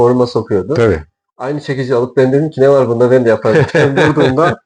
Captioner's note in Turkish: kahkaha